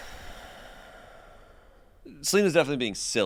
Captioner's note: sighs